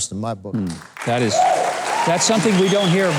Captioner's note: crowd applauding and clapping